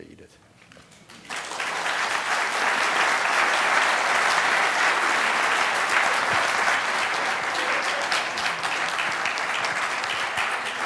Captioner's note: applause